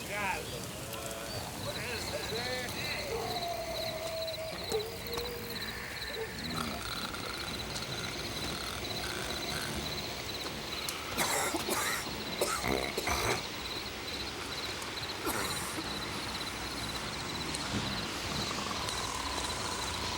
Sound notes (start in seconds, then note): 3.2 crickets chirp; 5.4 gang members snore; 11.1 gang member coughs; 15.2 gang member coughs; 16.8 gang members snore